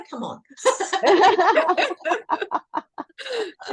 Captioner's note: everyone is laughing